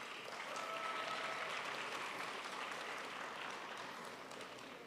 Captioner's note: crowd applauds